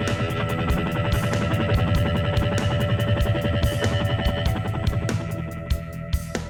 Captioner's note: helicopter